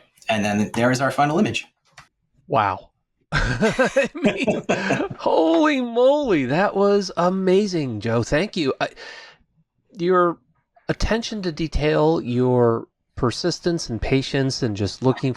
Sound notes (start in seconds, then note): 3.4 laughs